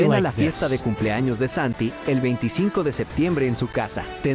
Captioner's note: Spanish language